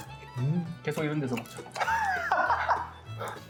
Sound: laughing out loud

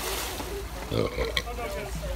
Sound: burp

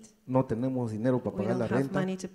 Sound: speaks in foreign language

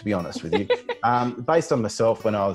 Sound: laughs

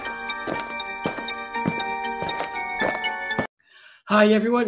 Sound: footsteps marching; spooky music

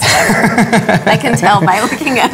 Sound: laughs

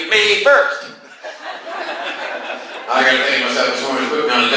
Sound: class laughs

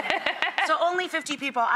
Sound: laughing

